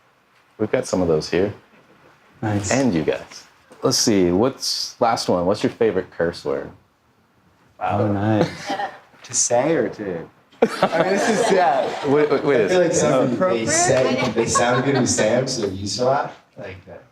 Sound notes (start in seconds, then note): 10.6 audience laughing